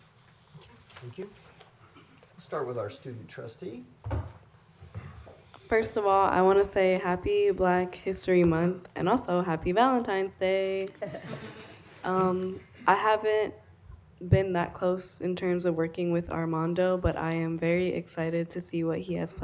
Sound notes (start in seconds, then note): 10.9 laughter